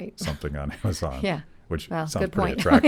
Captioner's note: laughing